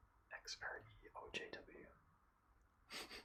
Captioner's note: laughs